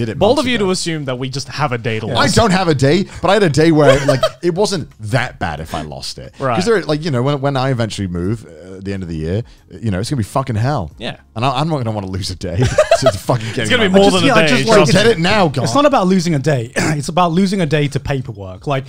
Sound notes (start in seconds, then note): 12.6 laughing